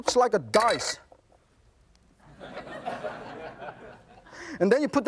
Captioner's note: audience laughs